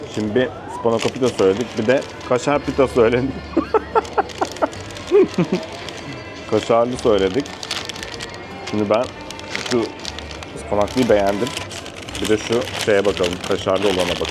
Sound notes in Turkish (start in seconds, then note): 3.4 kahkaha